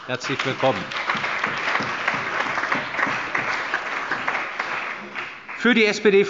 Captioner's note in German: Allgemeiner Beifall